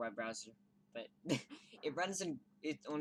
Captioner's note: laughs